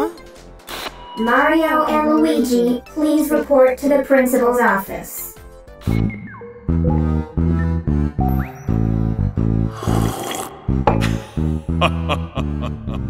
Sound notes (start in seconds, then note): 9.7 sips coffee; 11.0 laughing